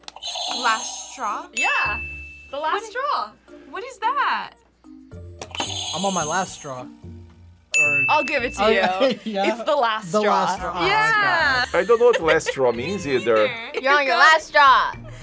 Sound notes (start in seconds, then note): 1.5 bell rings; 1.6 buzzer rings; 5.8 buzzer rings; 7.7 bell rings; 8.9 laughs